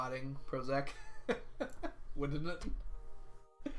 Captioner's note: laughs